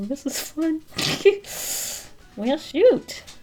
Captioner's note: giggles happily